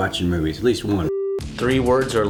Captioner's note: beep